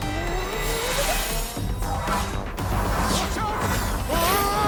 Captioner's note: magical whirs; yells